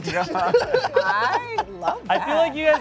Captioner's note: laughs